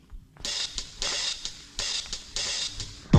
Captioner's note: pop corn popping